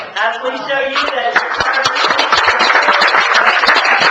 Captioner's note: applause